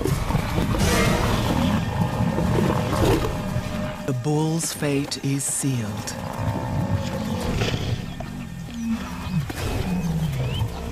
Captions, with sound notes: (growling) The bull's fate is sealed. (groaning)